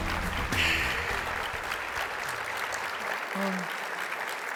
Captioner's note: audience applauding